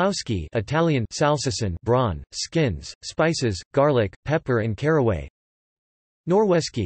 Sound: Italian

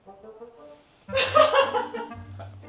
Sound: laughing

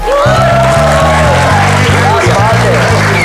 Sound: crowd clapping and cheering

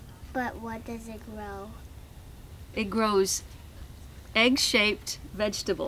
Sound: none

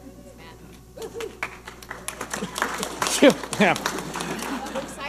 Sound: audience applauding

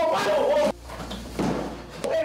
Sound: gun thuds; punches thudding

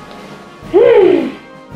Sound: groans

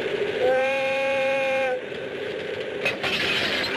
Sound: horn whooshes; metal clanking

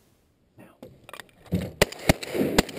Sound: gunshots

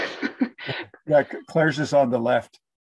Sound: chuckles

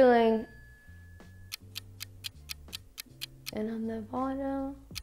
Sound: clock ticking

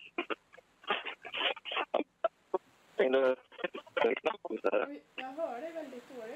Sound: bad reception

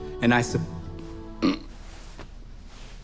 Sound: retches

